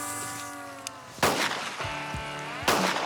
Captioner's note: hissing; gunshots